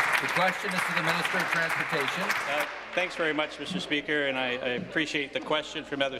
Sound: applause

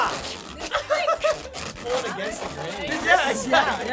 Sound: giggling

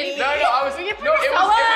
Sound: laughing and yelling

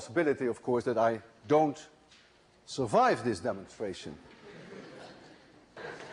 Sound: laughter

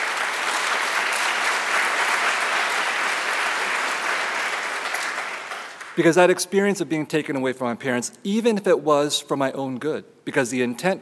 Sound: applause

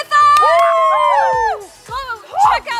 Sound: cheering

